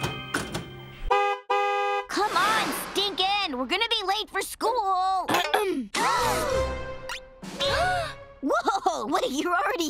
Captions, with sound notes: [horn honking] Come on, Stinkin'! We're gonna be late for school! [Lincoln clearing throat, sisters gasping] [gasping] Whoa! What, you're already here?